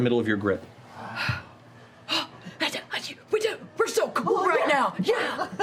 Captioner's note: stuttering